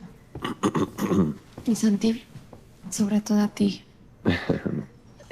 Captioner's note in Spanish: Santiago carraspea